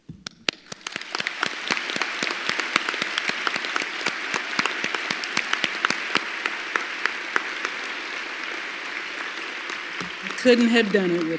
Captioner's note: applause